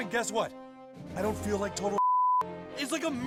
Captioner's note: beep